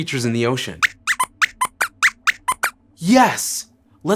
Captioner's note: squeaks squeaks